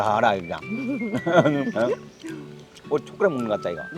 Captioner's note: both laughing